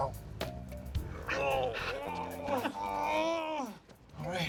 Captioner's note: grunts